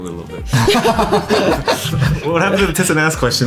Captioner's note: laughing